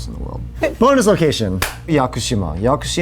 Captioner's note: claps